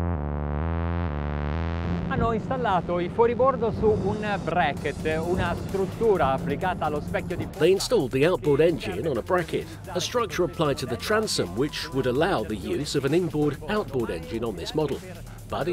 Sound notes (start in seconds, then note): 0.1 bouncy, stylish electronic music; 2.8 speaking in Italian